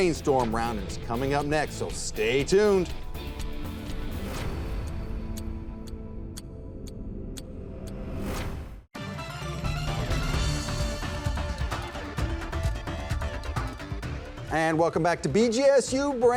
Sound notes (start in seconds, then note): 3.5 clock ticking; 3.5 dramatic music; 8.9 lively music